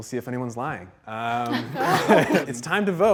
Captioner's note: all laughing